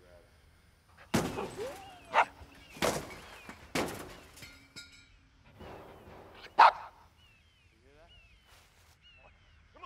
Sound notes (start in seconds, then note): 1.8 dog barking and gun firing